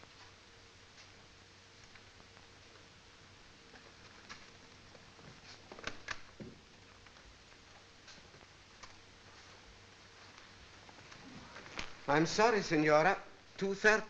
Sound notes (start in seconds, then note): none